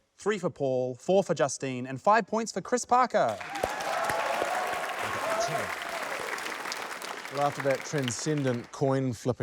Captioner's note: cheers, applause